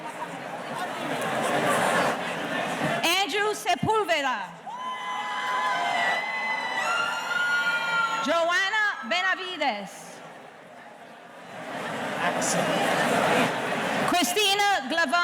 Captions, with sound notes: Andrew Sepulveda. (audience cheering) Johanna Benavides. - Excellent. - Christian Glavan.